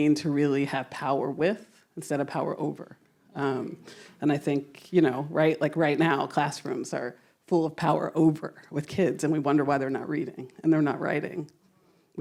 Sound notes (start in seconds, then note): none